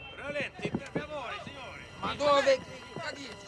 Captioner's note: speaking italian